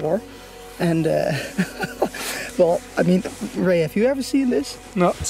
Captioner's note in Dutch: lacht